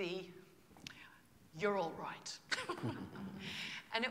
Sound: laughter

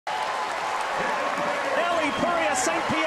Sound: crowd cheering

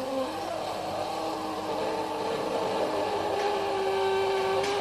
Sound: machine groaning

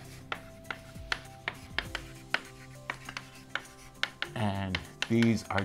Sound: chalk scratching on board

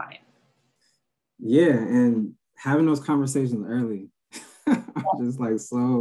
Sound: laughs

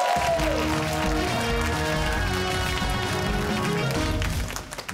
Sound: cheers and applause

